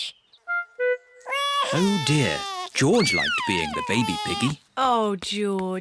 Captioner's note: bawls